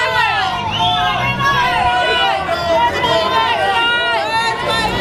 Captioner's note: audience yelling